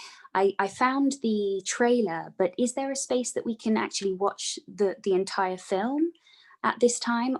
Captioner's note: none